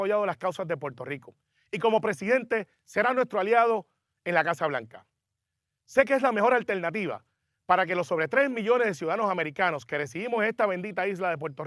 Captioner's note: speaking in native language